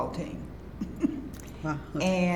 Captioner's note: chuckles